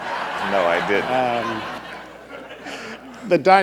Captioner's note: laughter